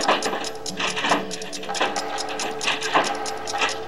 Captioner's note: banging